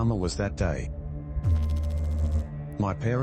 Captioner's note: electrical noise